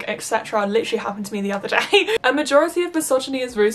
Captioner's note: laughs